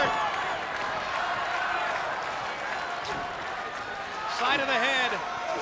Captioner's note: spectators cheering and applauding